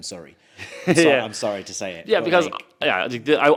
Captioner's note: chuckles